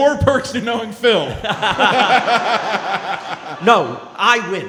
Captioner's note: laughing